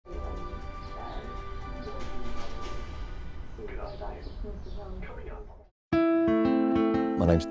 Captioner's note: sound of television in background